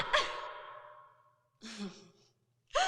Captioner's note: Kitty screaming; Carol laughing